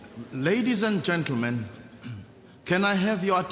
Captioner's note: clears throat